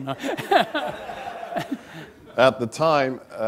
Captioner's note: laughing